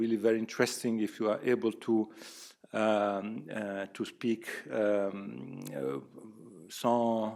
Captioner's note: speaks in French